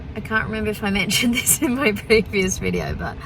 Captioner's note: laughing